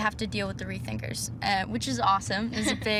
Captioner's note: laughs